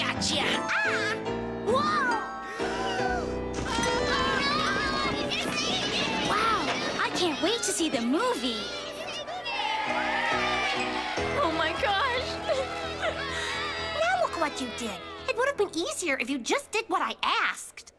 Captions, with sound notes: -GOTCHA! -AH! WHOA! -AHH! -WOW! I CAN'T WAIT TO SEE THE MOVIE! [CHEERS] -OH, MY GOSH! [CRYING] -NOW LOOK WHAT YOU DID! IT WOULD HAVE BEEN EASIER IF YOU JUST DID WHAT I ASKED.